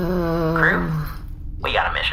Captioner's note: groaning